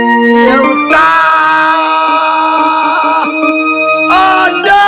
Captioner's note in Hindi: चीखने की आवाज़